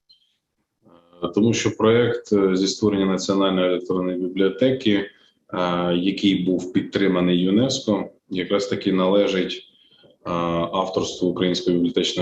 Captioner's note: foreign Language Spoken